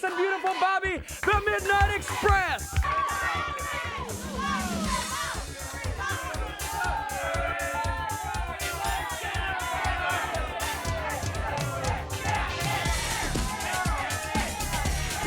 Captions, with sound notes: and Beautiful Bobby, the Midnight Express. (upbeat music) (crowd clamoring)